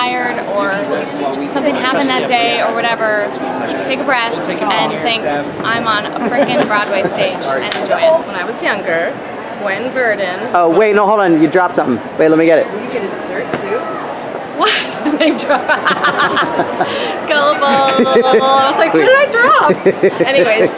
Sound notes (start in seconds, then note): 14.6 laughs